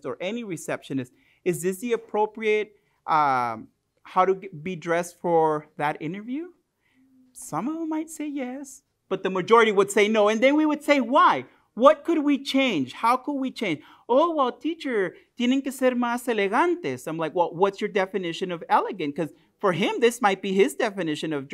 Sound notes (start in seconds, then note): 15.7 spanish